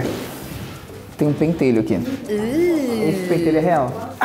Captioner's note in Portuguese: faz som de enjoo